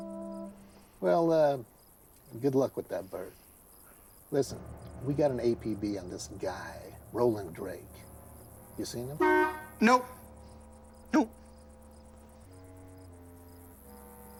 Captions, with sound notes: - Well good luck with that, Bert. Listen we got an APB on this guy, Roland Drake. You seen him? (horn honking) - Nope. No.